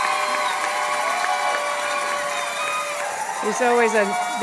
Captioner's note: applause and cheers